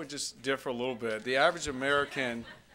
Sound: scattered laughter

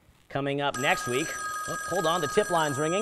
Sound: phone rings

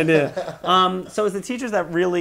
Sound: laughing

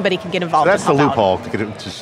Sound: laughs

